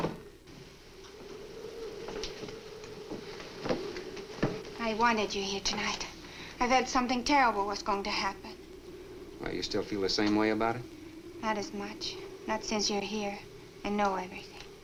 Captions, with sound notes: (muffled wind howls) - I wanted you here tonight. I thought something terrible was going to happen. - Well, do you still feel the same way about it? - Not as much. Not since you're here and know everything.